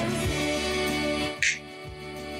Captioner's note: snaps fingers